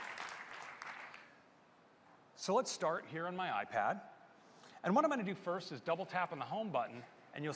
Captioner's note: applause